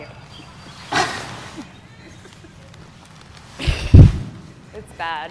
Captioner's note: grunting